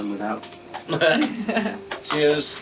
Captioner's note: laughing